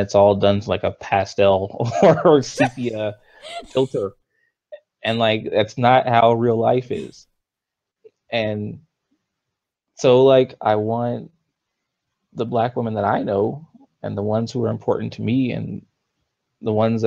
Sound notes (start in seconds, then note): 1.7 laughs